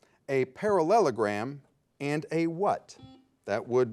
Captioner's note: soft buzz